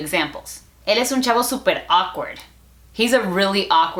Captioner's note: Spanglish